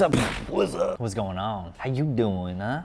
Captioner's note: mimics explosion